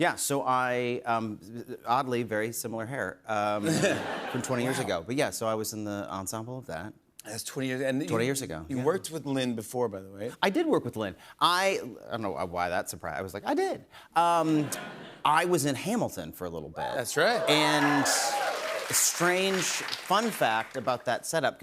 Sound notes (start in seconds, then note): 14.5 laughter; 17.1 cheers and applause